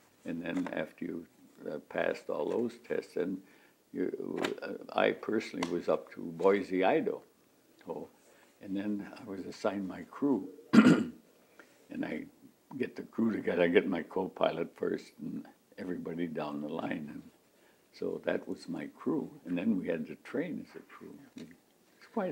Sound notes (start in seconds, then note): 10.7 clears throat